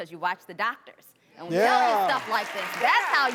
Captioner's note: applause